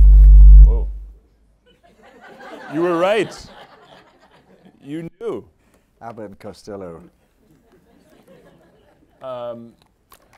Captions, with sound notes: Whoa. (audience laughing) - You were right. You knew. - Abbott and Costello.